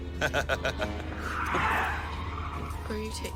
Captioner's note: laughs; tires screeching